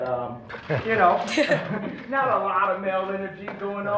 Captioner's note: chuckles